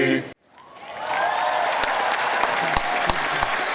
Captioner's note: applause